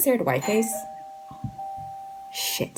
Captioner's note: 𝘥𝘰𝘰𝘳𝘣𝘦𝘭𝘭 𝘳𝘪𝘯𝘨𝘴